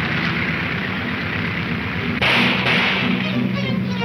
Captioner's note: gunshots banging